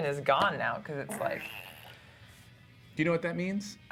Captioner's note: farting sound